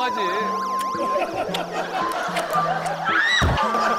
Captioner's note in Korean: 쪽 쪽 쪽